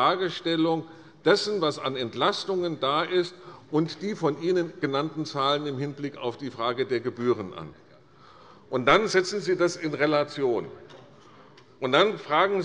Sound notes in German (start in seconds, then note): none